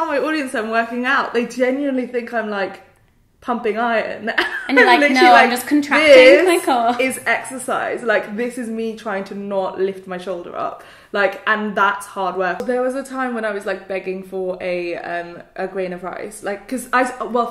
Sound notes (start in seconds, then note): 4.4 laughs